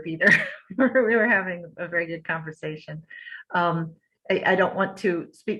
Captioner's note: laughter